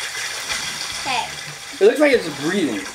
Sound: water splashing

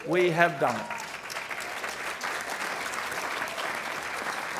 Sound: applause

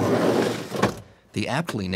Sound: box being dragged

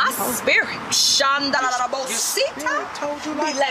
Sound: speaking jibberish

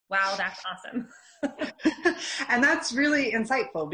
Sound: laughing

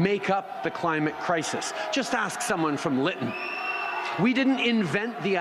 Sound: chanting

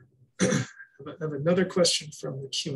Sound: clears throat

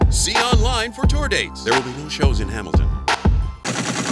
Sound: voiceover

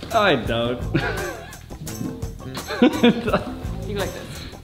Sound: soft groovy music; laughing

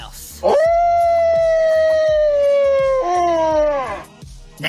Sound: howl

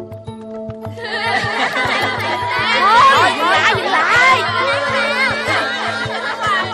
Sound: kids chattering

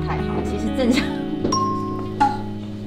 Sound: laughs

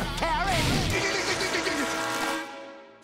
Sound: zapping

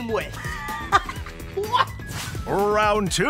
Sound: laughing

